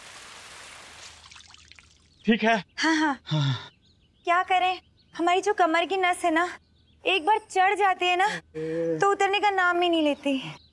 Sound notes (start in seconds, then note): 3.2 Sigh